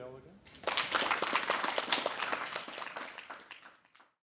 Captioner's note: applause